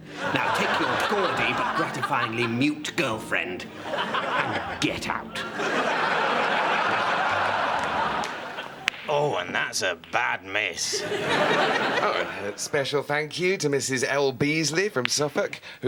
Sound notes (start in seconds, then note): 6.8 snooker balls click